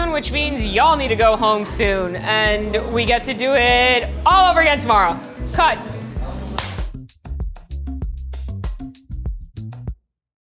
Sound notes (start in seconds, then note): 6.4 claps hand; 7.7 soft music